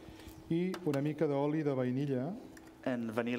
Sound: speaking catalan

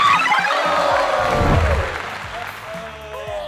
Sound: applause; descending tones

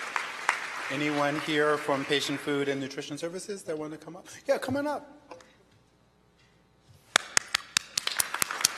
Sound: applause

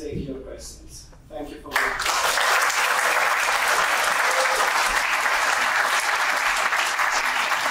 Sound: audience clapping

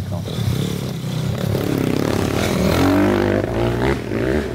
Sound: motorbike engine revs

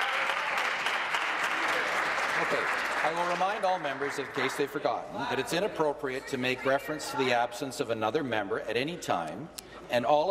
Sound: applause

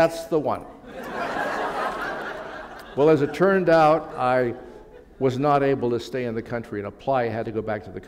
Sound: laughter

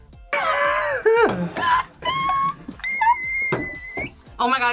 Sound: both laugh

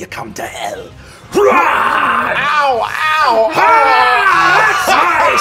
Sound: screaming

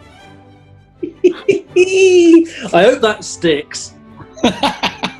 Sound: giggling; laughing

